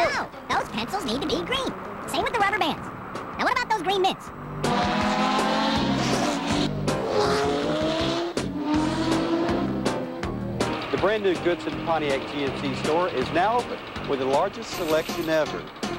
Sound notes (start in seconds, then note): 4.6 SFX: exaggerated high-speed engine sounds